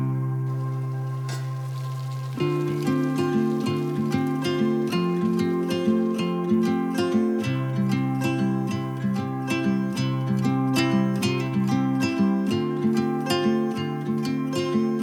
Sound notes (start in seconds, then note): 1.2 lid popping; 2.5 tranquil rhythmic music; 2.5 water bubbling